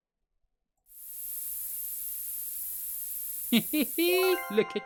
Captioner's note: spray sound